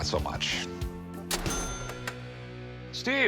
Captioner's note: cash register dings